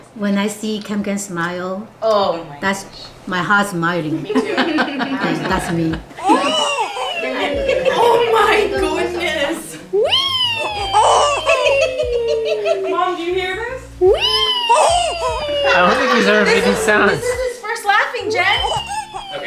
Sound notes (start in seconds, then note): 6.1 laughs; 11.0 laughs